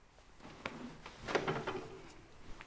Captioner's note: fabric rustles